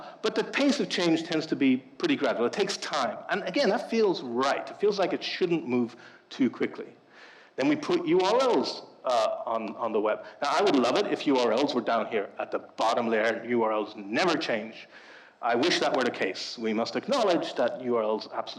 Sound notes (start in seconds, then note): none